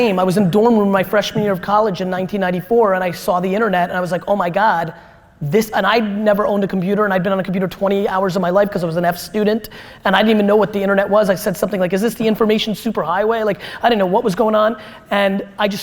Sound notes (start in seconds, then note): none